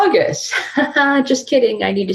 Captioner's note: laughing